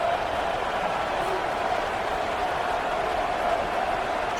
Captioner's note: crowd Noises